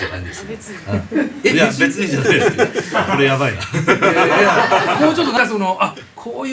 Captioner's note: laughs